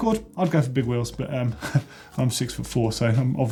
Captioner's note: laughs